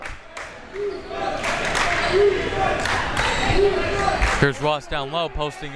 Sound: crowd members chanting

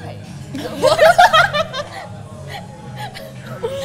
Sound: both giggle

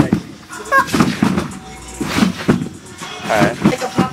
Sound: laughing

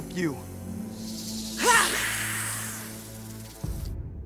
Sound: hissing

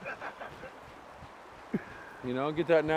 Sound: laughing

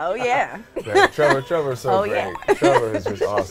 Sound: laughs

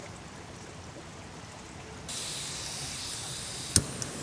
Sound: gas hissing

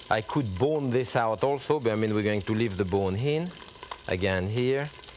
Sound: none

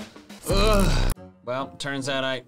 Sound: groans

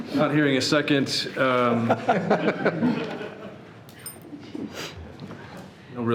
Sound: people laughing

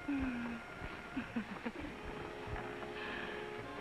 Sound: laughing

